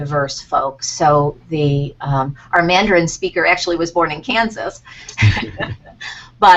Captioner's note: laughter